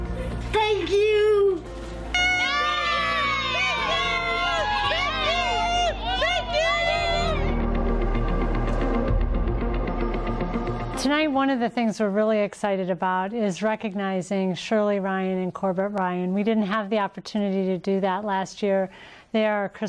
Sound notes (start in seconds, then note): 8.5 cheers